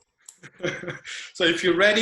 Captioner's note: chuckles